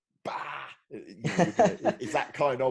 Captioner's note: laughing